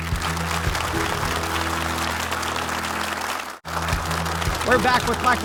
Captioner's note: audience applauding